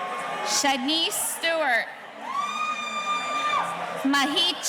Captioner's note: audience cheering